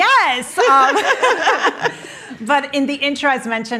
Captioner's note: both laughing